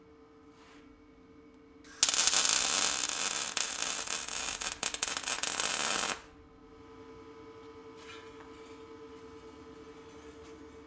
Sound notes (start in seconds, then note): 1.8 metal sizzling